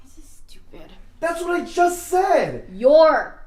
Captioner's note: none